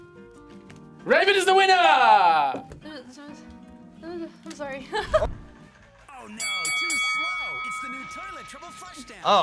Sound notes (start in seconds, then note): 4.8 laughs; 6.2 bell rings